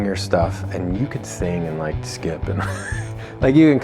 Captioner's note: laughs